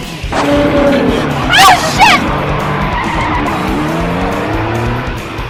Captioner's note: roaring engine; screeching tires; roars